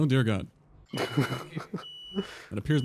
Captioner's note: fire alarm going off